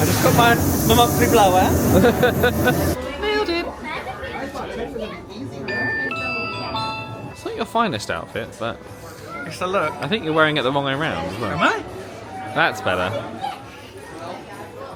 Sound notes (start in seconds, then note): 1.8 laughs; 5.7 Magic Band Reader chimes